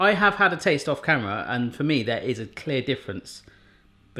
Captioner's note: none